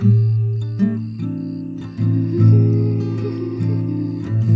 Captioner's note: humming a traveler's tune